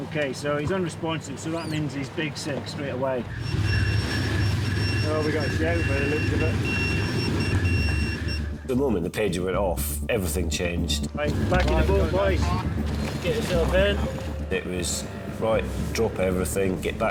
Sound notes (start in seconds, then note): 4.4 pager beeps